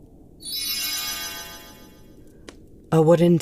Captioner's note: magic sound